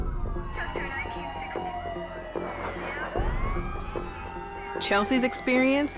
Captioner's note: sirens blaring, radio chatter